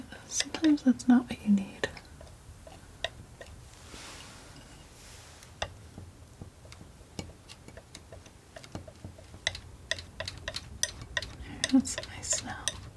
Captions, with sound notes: sometimes that's not what you need (tapping) There, that's the nice snow